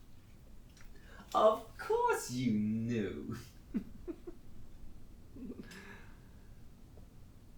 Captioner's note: Captain Brookes laughs